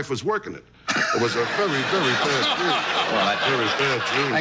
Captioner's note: audience laughs